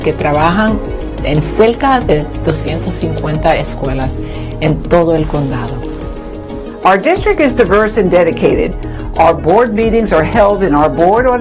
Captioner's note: spanish